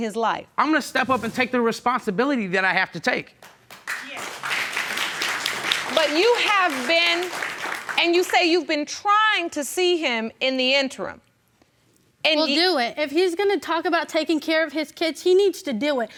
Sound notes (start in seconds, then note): 3.4 audience applauding